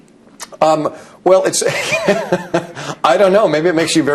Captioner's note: laughs